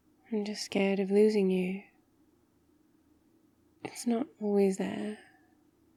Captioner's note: none